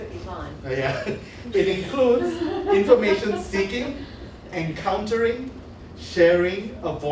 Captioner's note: laughs